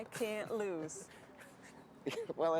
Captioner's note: Wes chuckling